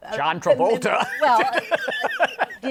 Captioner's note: laughs